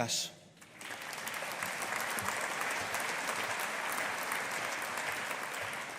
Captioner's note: audience applauding